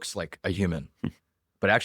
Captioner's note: laughs